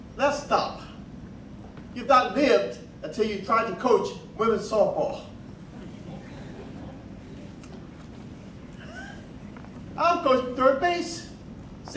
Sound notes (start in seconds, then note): 8.7 laughing